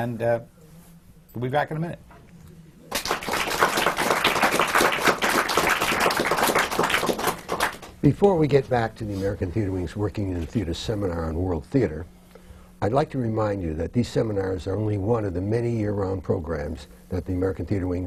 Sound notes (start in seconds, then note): 5.6 applause